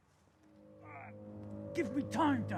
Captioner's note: Van Helsing groaning